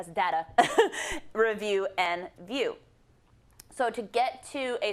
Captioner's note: laugh